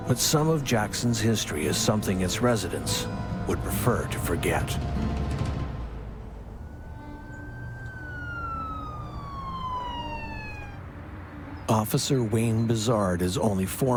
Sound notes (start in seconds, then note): 5.3 dramatic music; 6.9 siren blaring